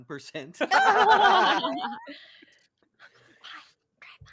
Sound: laughing

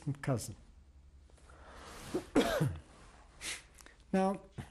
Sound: pauses for 3 seconds

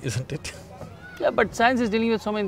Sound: laughs

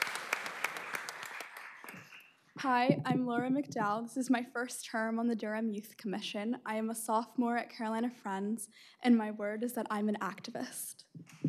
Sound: applause

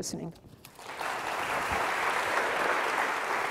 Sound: applause

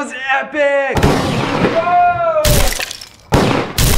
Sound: gunshot and crashing

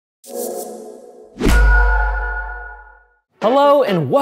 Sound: logo whooshing

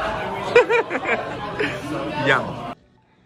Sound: laughing

